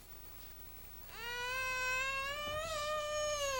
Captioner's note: baby crying